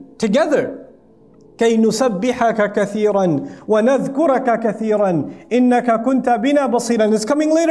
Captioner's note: Arabic